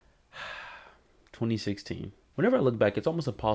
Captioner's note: sigh